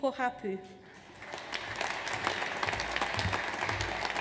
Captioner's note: audience applauds